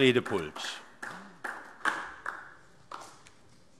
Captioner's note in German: Beifall DIE LINKE